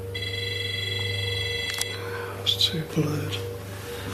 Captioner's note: beeping